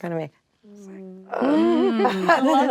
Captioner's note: whispering